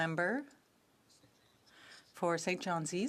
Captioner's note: speaking French